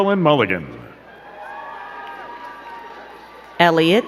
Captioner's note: crowd cheering and clapping